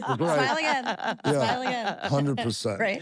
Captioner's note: laugh